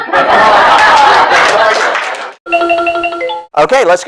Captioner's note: SFX: Game Jingle